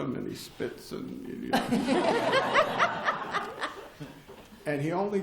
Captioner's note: laughter